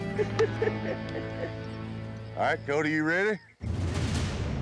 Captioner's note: chuckling